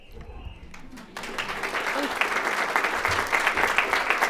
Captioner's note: applauds